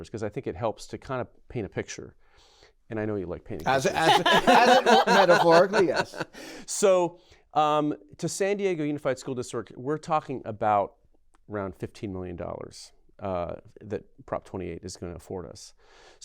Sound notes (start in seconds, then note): 3.6 laughter